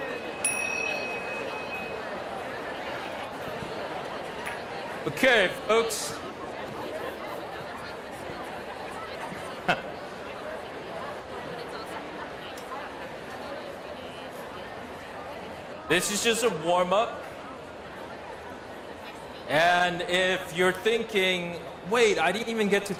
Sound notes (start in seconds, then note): 0.0 bell ringing; 9.6 laughs